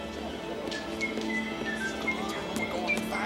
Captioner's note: John whistle jauntily